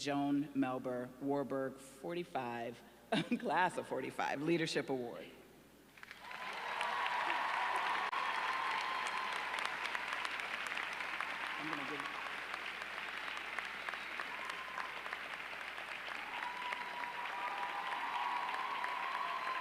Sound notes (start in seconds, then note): 8.8 applause